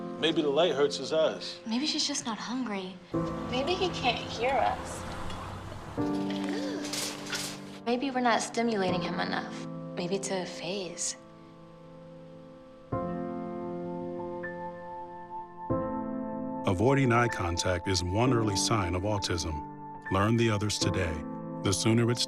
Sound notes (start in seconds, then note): 4.6 rattling